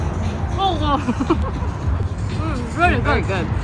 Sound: mouth full

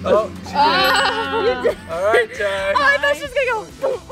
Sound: ding

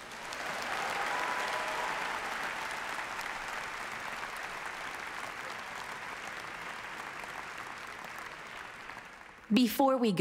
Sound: applause

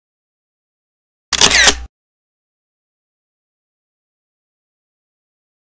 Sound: camera shutters

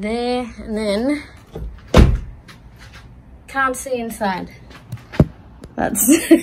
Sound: door slams; phone clunks against window; giggles joyfully

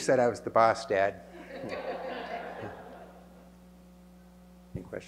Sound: laughter

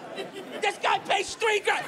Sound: laughter

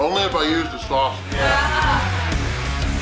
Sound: audience cheers; upbeat rock music

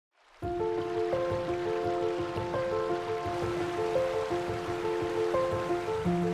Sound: water trickling; gentle piano music

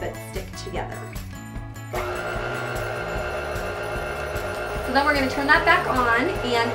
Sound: mixer Whirring

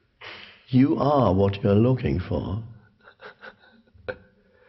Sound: laughs

